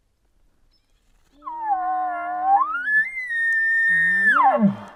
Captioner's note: caller bugling